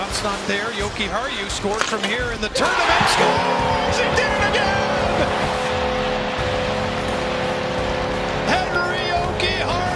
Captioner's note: goal Horn